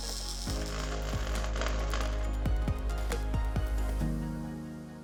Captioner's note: welding gun sparking; gentle music